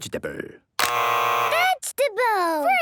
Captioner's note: both buzzing